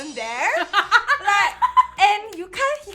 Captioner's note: laughs